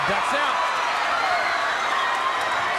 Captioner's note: crowd cheering